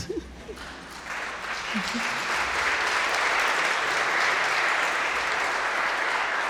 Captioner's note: Angela chuckling; audience applauding